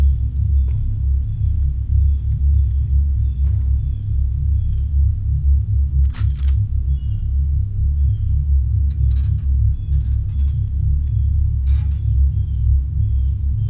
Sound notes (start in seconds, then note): 4.4 droning music continues; 6.0 shotgun cocks